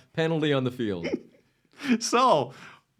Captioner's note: laughs